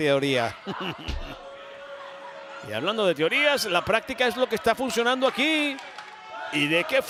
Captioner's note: laugh